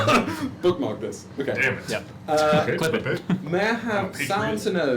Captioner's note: laughs; laughs